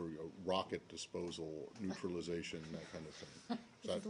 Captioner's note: laughter